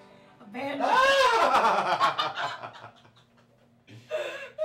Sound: laughter

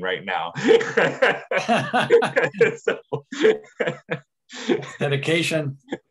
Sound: laughter

